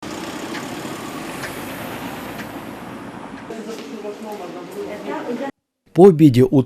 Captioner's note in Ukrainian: звук мотора машини